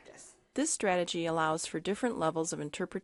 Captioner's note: voiceover